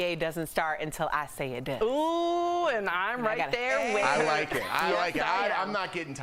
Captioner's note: laughter